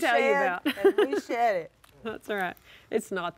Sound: laughs

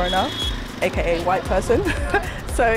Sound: laughs

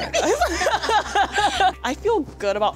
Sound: laughter

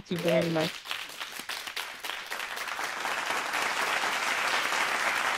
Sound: applause

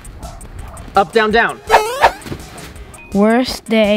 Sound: electronic beeping

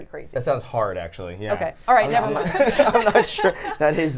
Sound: everyone laughs

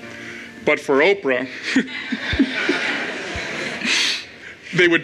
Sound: crowd and speaker laughs

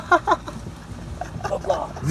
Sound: laughs

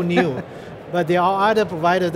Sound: chuckles

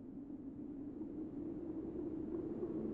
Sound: faint wind blows

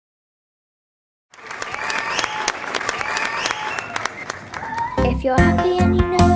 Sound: audience applauding; fans whistling

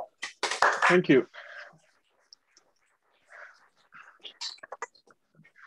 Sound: applause

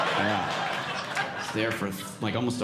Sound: audience laughing

